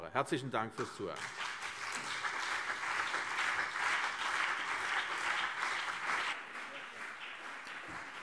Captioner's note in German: Anhaltender Beifall CDU und BÜNDNIS 90/DIE GRÜNEN